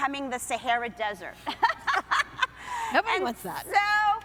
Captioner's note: laughing